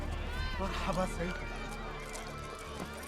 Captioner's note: speaking in arabic